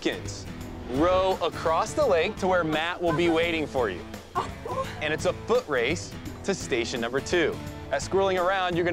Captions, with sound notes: row across the lake to where Matt will be waiting for you. [laughter] And it's a foot race to station number two. At Squirreling Around,